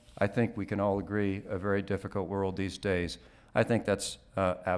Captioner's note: none